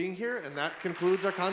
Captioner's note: audience applauding